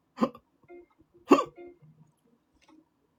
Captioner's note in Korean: 목을 가다듬음